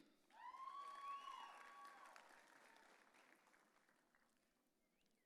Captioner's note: audience cheering